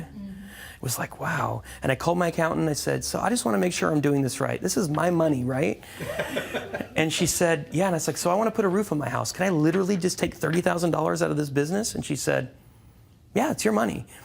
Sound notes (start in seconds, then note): 6.0 laughter